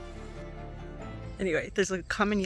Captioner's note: Common Yellowthroat singing